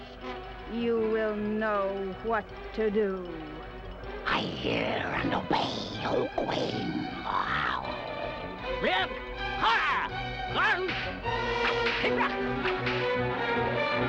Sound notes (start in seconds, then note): 7.1 snarling; 8.4 barks command in strange language